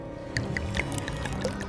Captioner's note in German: Gluckern